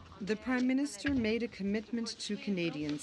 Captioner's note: speaking French